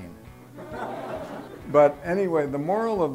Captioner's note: laughter